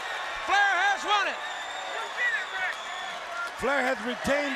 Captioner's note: audience cheering